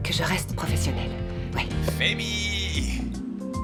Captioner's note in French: none